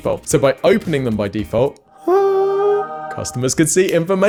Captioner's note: hums